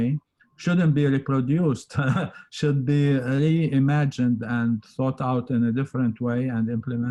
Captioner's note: laughs